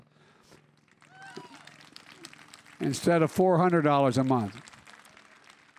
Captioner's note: applause